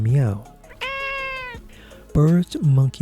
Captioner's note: sound of a cat meowing